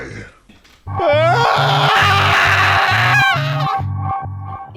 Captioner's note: screaming